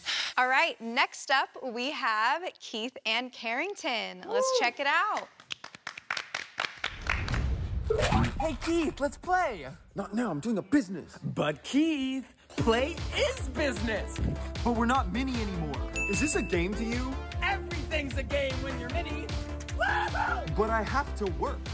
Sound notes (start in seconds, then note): 0.0 sigh; 5.1 clapping